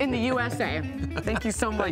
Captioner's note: laughing